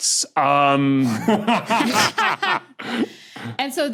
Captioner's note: cackle